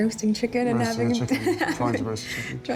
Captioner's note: laughs